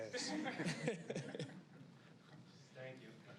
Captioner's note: people chuckling